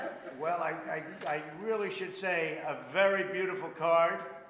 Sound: laughter

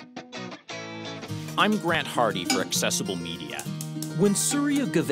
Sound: cheerful guitar music; voiceover

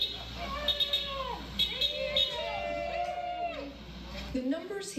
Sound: protesters shouting

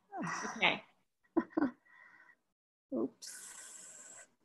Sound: chuckles

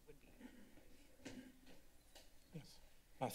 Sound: rustling sound

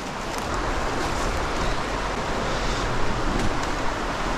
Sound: sound of rushing water

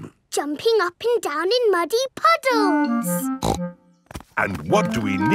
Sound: snorts

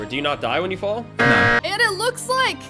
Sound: buzzer buzzes

